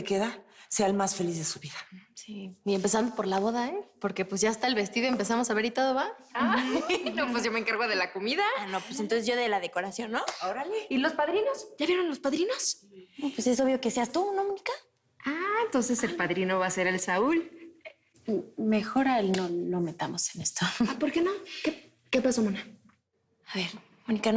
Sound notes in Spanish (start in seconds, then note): 6.4 Risas